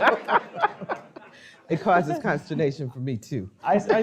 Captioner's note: laughing